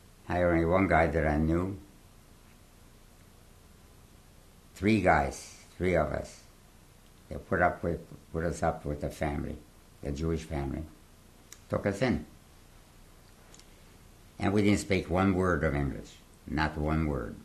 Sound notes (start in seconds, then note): 0.0 pauses for 3 seconds; 1.7 pauses for 3 seconds